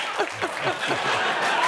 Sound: cheers and applause

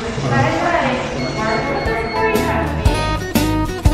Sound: overlapping chatter; upbeat music

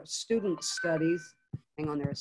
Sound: phone chime

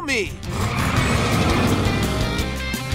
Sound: engine revving

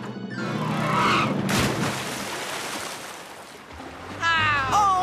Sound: tires Screech; splash!

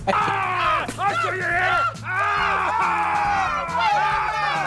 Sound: yells

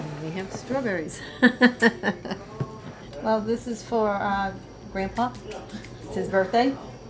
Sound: laughs

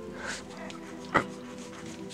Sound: grunts

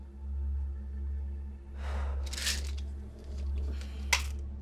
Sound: pill bottle rattles and pops open

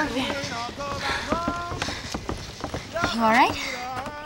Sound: running cadence in distance

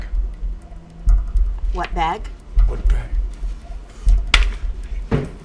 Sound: mutters

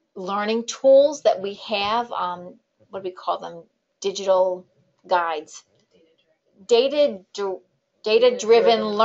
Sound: background voice

